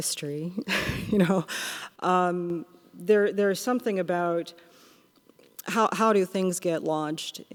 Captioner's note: laughs